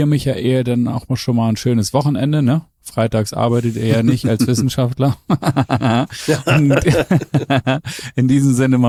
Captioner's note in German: gelächter